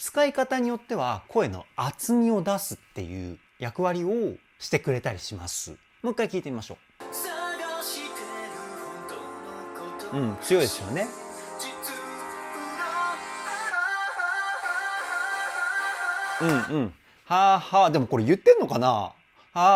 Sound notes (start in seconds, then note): 16.4 laughs